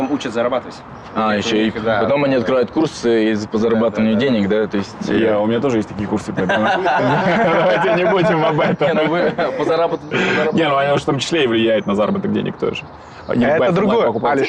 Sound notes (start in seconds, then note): 9.5 laughing